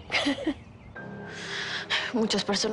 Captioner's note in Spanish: Risas